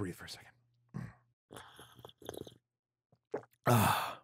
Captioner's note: sips drink; exhales